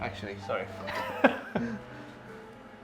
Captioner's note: chuckles